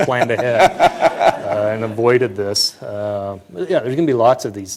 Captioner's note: laughter